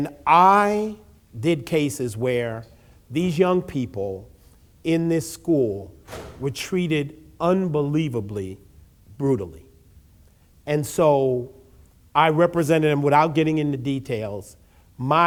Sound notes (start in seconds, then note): none